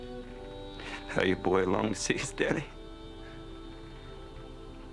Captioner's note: sobs